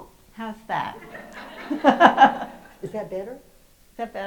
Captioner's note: host and audience laugh